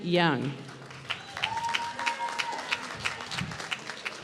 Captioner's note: applause